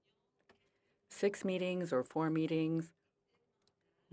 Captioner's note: speaking French